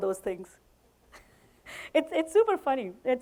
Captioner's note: chuckles